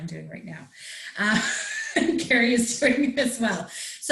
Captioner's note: laughs